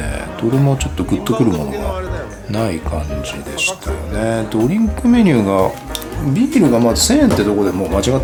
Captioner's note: laughs